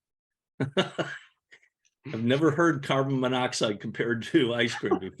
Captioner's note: laughing